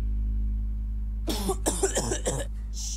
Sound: coughing

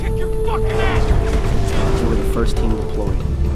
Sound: explosion booming

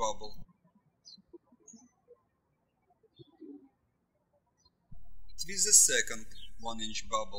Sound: birds chirping

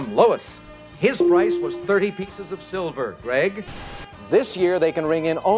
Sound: tone dings

